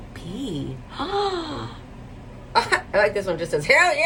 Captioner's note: gasps